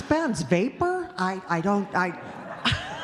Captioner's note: audience chuckling